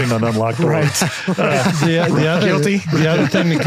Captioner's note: all laughing